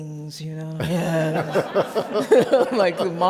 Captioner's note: laughs